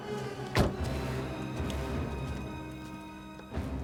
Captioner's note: door thuds